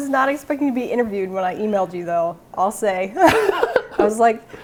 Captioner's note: laughing